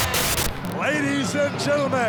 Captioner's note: graphics hissing; static crackling